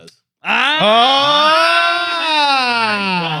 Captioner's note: all Exclaiming